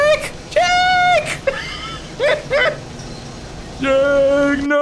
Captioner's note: laughing